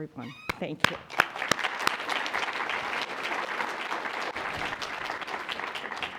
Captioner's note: applause